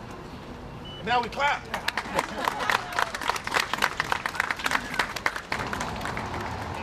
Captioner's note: laughter, applause